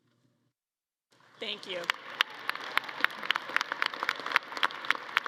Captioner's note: audience claps